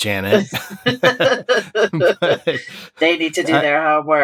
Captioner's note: laughter